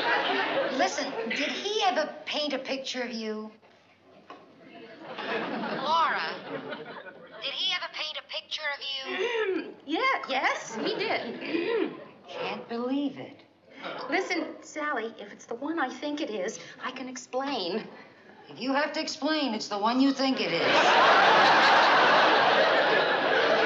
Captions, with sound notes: Listen, did he ever paint a picture of you? Laura? Did he ever paint a picture of you? [CLEARS THROAT] Yea-- yes, he did. [CLEARS THROAT] Can't believe it. Listen, Sally, if it's the one I think it is, I can explain. If you have to explain, it's the one you think it is.